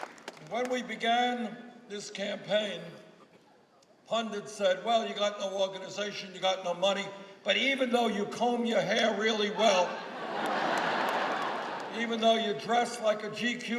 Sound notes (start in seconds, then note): 1.6 applause